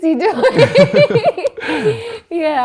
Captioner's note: laughs